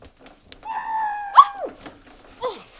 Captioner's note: Raheem scream into Jayden's butt